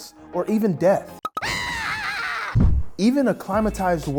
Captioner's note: person screams